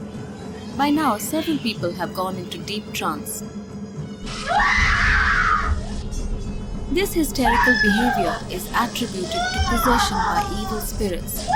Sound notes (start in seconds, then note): 4.2 intense screaming; 4.6 intense drumming